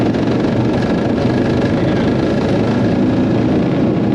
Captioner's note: engine roaring